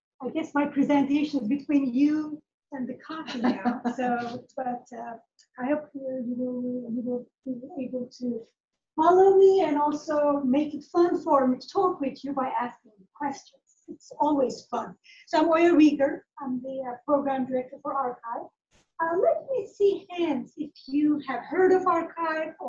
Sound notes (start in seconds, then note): 3.2 laughs